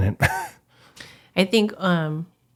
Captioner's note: laughs